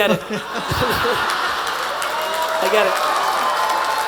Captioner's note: attendees applauding and laughing